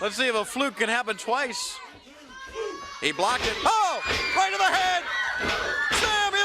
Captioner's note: crowd cheering